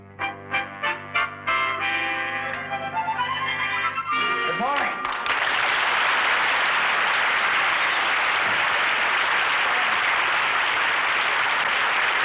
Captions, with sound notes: (jaunty music) - Good morning. (audience applauds)